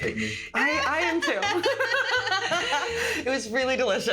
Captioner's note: laughing